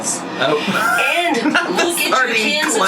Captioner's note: laughs